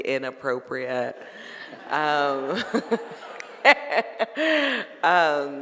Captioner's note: audience laughing